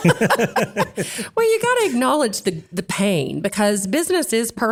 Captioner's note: laugh